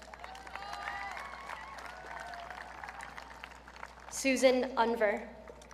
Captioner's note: audience cheering